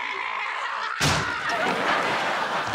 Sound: laughing

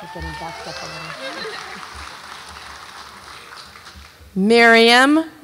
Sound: audience applauds and cheers

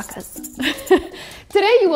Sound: chuckles

